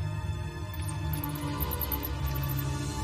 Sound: bats screeching

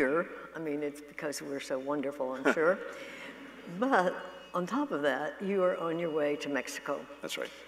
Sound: laughter

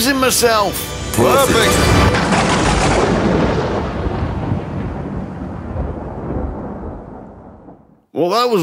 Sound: thunder clap

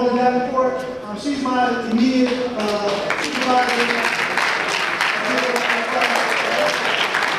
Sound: audience applause

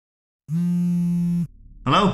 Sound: phone Vibrating

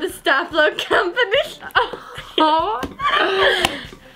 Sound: laughing

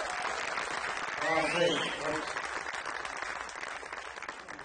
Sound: audience applauding

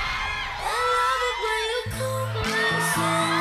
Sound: crowd cheering

